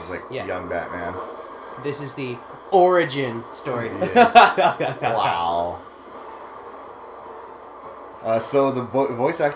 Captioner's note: laugh